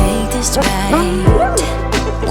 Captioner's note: deep howl